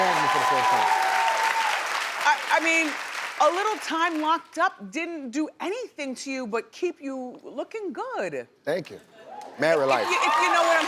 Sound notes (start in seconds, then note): 2.4 audience cheering